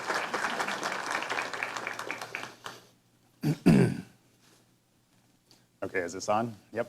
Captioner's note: applause